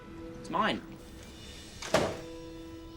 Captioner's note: door opens